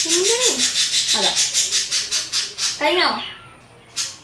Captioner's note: the chirping of my birds